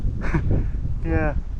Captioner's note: laughs